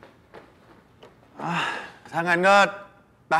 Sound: sigh

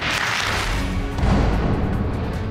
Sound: audience clapping

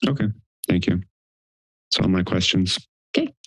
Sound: none

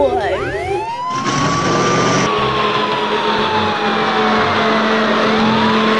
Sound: siren wailing

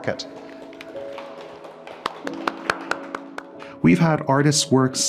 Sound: clapping

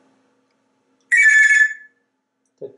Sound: telephone sound

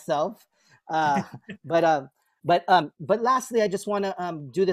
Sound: laughter

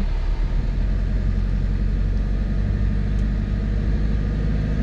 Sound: engine revving

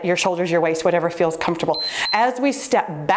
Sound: timer beeps

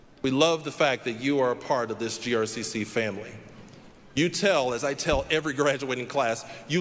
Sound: none

